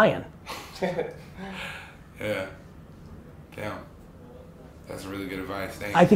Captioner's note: laughs